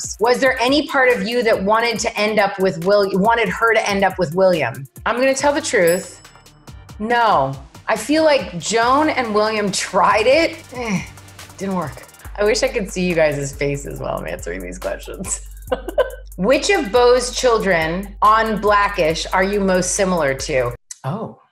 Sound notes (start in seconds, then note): 15.6 laughs softly